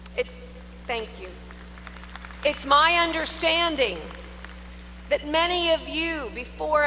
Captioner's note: applause